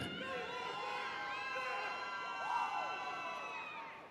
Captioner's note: audience cheering